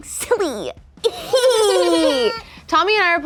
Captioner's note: giggle